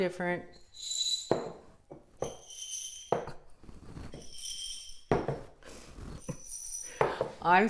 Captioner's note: jingling